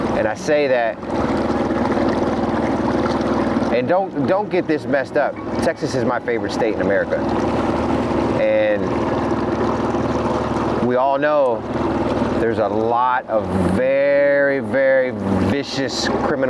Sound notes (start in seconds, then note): 1.6 engine idling; 1.6 river babbling